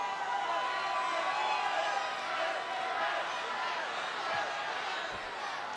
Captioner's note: audience cheering